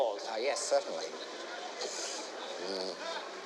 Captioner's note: sighs